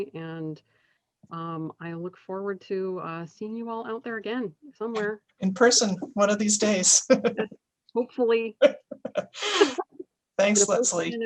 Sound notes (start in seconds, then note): 5.4 laughs; 8.6 laughter